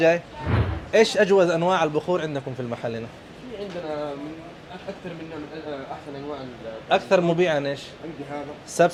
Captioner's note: talking in Arabic